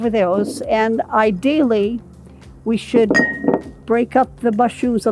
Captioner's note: glass clinking